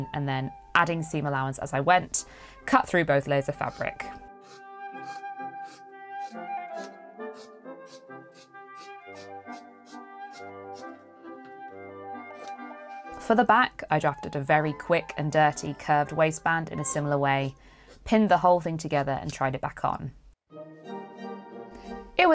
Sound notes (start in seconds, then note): 12.4 scissors snipping; 22.1 waltz starts